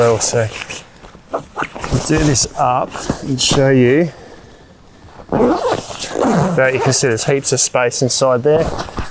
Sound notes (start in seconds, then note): 5.2 zipper closing